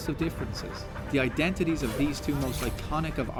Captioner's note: laughing